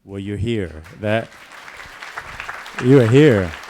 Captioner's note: applause